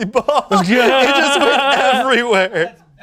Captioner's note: laughs